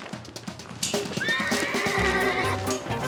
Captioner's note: horse neighing